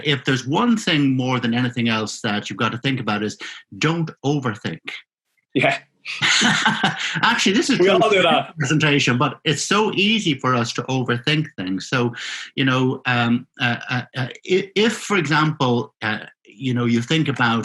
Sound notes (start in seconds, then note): 6.1 both laughing